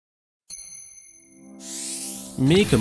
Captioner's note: 'ting' sound, like tapping crystal